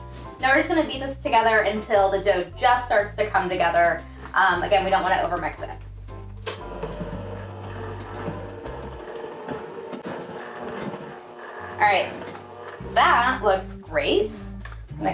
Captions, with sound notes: Now, we're just gonna beat this together until the dough just starts to come together. Again, we don't wanna over mix it. (hand mixer whirs) All right, that looks great.